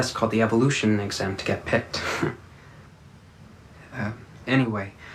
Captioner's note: chuckles